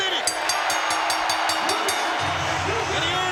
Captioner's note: bell ringing; crowd roaring